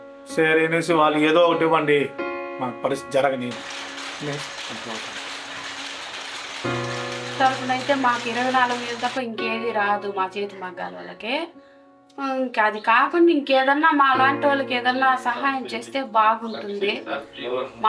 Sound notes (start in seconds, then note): 3.5 the steady hum and clatter of the electric loom